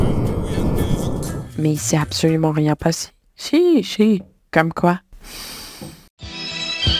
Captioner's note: breathing